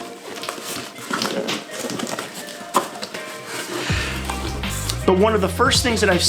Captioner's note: box cutting and plastic rutsling sounds